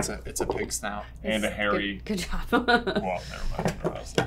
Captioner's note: laughing